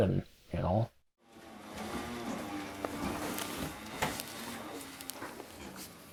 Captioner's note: machine engine roaring